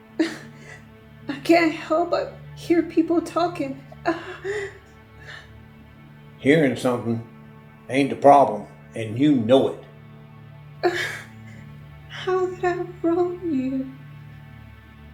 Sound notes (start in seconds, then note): 4.0 crying